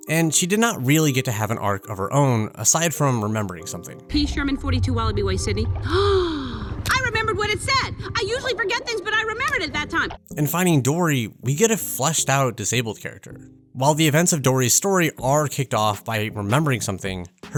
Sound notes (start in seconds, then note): 5.8 Dory gasps